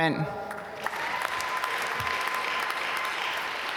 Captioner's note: applause